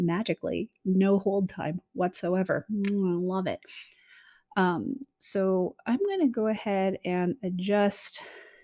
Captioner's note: lips smack